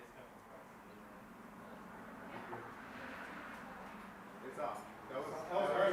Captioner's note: car engine roaring; participants chattering